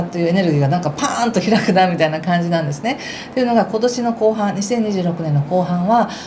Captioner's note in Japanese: 笑い